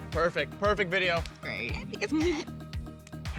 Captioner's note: laughs